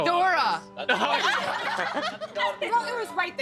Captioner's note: all laughing